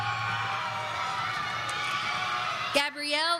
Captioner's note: audience cheering